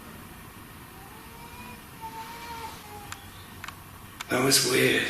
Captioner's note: child crying